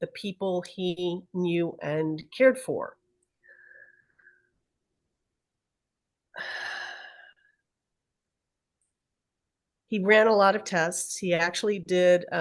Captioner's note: sighs